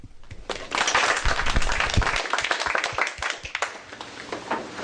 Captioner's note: applause